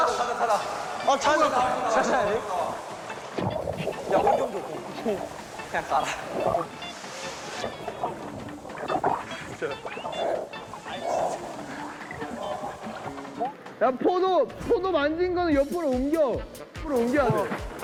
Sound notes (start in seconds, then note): 9.4 breathes in